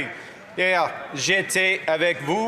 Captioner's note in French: voix de l'interprète